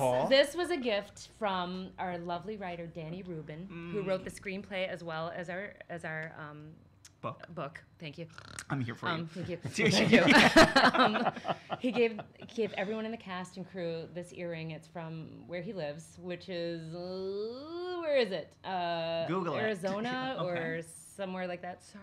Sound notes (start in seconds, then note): 9.0 snoring; 11.5 all laughing